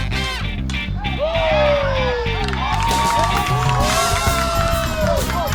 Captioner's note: bat pings; crowd cheers and applauds